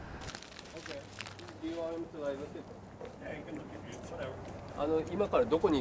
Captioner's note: speaking in foreign language